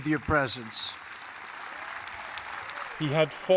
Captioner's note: applause